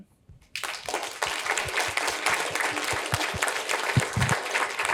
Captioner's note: applause